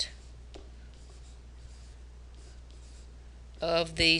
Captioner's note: pen scratching